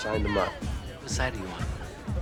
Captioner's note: laughs